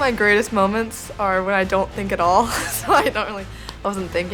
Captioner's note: laughs